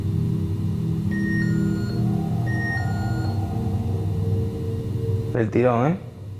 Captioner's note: The Rempod sounds affirming